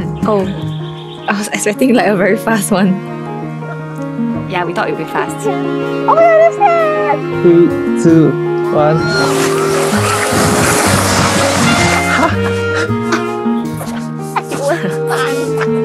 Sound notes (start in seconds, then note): 8.8 squeals